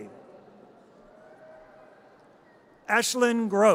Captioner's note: audience cheers